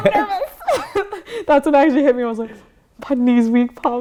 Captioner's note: laughter